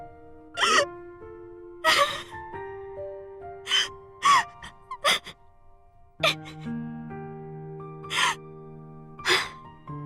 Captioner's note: sobs